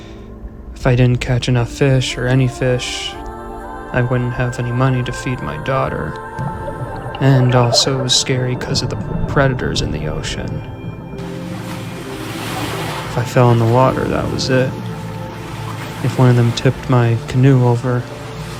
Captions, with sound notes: if I didn't catch enough fish or any fish, I wouldn't have any money to feed my daughter. And also it was scary 'cause of the predators in the ocean. (water splashing) If I fell in the water, that was it. If one of them tipped my canoe over, that was it.